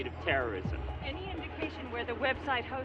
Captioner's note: voiceover